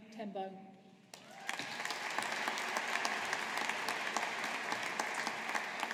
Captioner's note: audience applauding